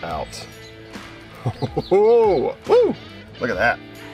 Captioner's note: laughing